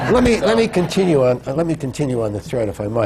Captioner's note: laughter